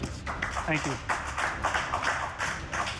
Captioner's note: applause